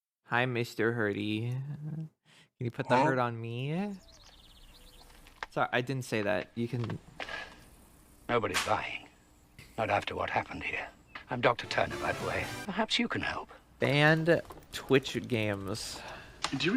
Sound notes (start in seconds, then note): 7.3 loud exhaling; 13.7 typing into search engine